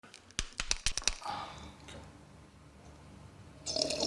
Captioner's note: cracking; slurping